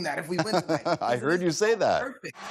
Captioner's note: laughter